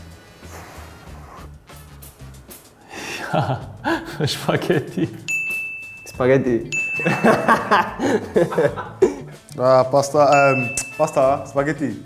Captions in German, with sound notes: Ahhh...Spaghetti? Spaghetti! (Lacht) Ah! Pasta, Spaghetti!